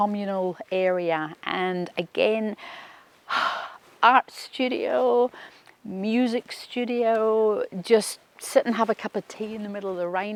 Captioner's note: sighs